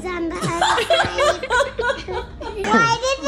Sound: laughs harder

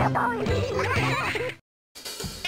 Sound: PENGUINS giggle

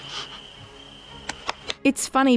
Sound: pat pat

